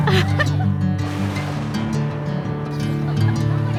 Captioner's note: thunder